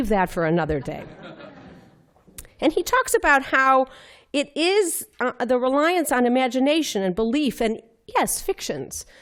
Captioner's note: laughter